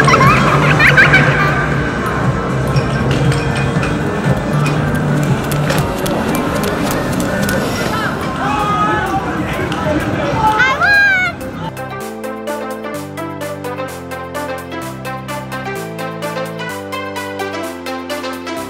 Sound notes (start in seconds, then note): 0.0 child giggling eerily; 5.8 running footsteps; 11.8 playful music